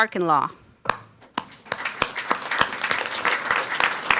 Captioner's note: people clapping